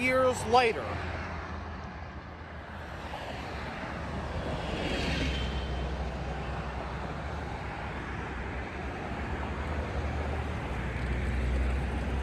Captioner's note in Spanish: Autos que pasan por State Boulevard